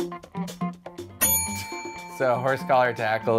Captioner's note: upbeat music; bell rings